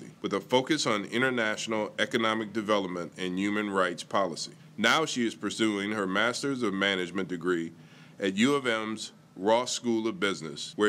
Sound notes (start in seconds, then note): none